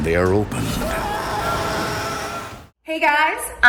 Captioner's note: man screams